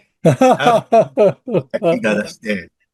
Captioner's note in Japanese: 笑い